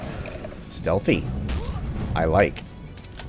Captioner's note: thwack